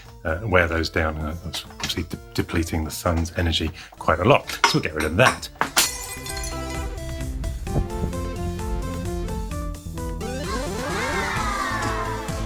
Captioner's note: breaking glass